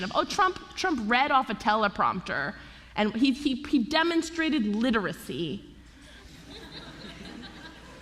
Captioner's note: laughter